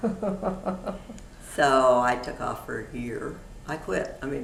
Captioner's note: laughter